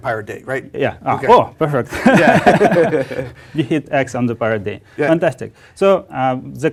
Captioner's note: laugh